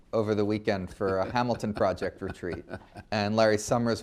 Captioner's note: laughs